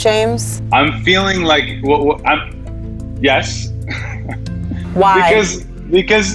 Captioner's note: laughs